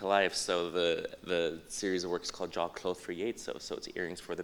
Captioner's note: non-english